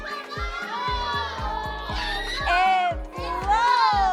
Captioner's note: cheers